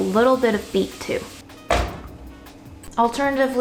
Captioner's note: thudding sound